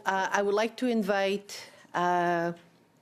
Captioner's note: speaking French